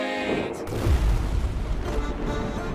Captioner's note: thunder rumbles